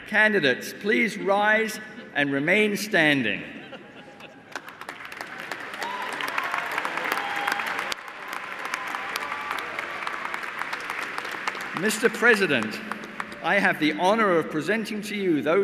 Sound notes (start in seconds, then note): 4.6 cheers and applause